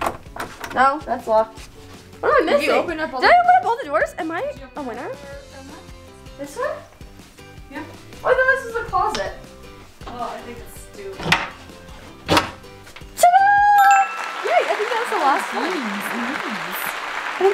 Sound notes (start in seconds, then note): 13.8 bell chiming